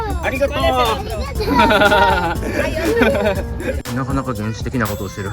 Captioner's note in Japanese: 笑い